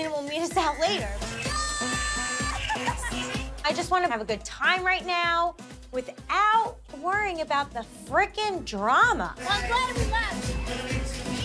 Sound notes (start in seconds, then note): 0.7 yells; 1.5 upbeat music; 2.7 laughs